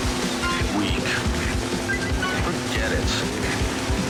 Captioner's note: electronic Voice